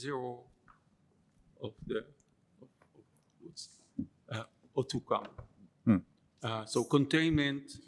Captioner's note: non-english